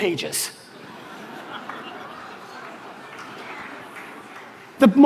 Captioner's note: audience laughter